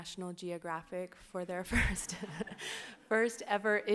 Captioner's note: laughs